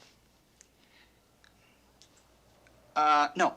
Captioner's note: sighs